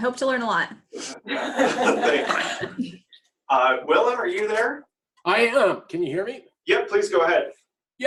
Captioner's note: laughter